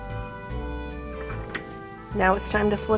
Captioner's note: snips